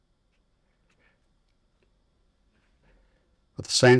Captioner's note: silence